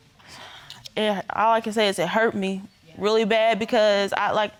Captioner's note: sighs